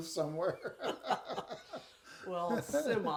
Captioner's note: laughing